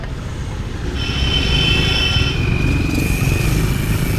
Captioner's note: car horn